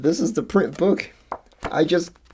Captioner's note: pages turning